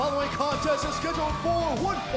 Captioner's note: bell ringing